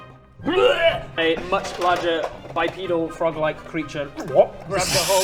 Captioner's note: blerp